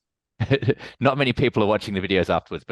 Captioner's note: laughing